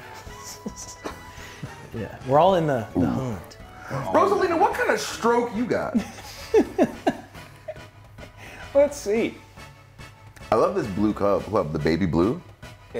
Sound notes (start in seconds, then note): 5.9 laugh